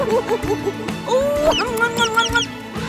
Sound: laughing; kissing; trumpeting

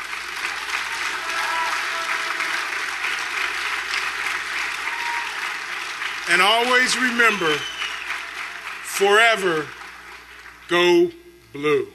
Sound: applause

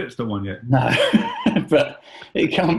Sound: laughing

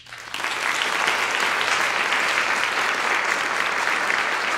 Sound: audience applauding

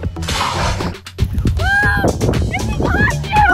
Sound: whooshing

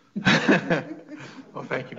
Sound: several laughing

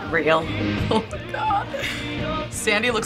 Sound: giggling

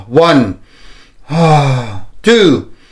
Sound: inhale and exhales

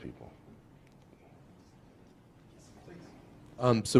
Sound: pause

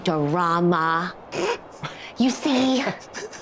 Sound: Jasmine snickers

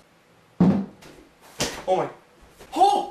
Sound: thud

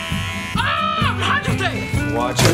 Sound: speaking in foreign language

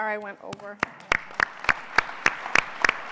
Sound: applause

